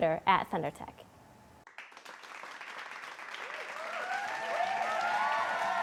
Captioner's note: applause